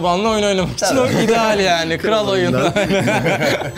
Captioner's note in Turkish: gülme sesleri